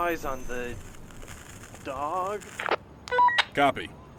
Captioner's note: walkie talkie